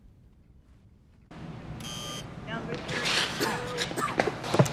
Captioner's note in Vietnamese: tiếng máy fax